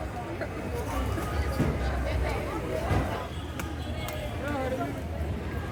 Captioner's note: street noise and traffic